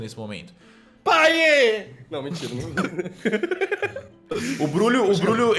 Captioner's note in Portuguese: risos